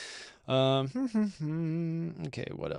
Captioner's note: hums